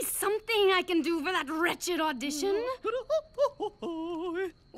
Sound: humming arpeggios

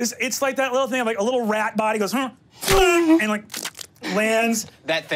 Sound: mimics splat

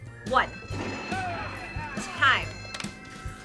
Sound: bell rings

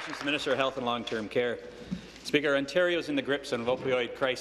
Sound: applause

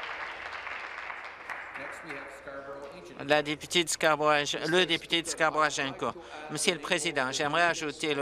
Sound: applause

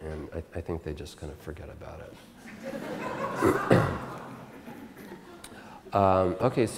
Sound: audience Laughter

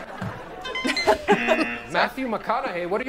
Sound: laughs; buzzer

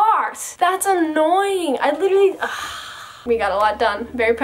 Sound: sighs

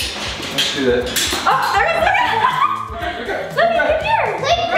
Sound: girl exclaims

